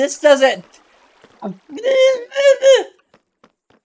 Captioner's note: indistinguishable upset noises